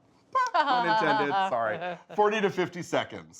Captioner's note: laughing